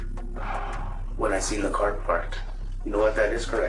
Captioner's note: Jesse sighs